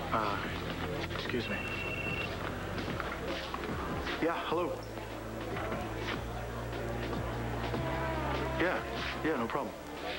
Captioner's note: phone rings